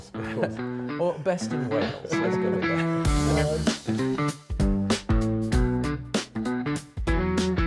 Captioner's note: chuckles